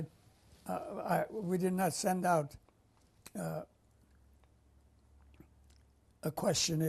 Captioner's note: pauses for 3 seconds